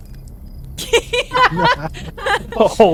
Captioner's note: laughter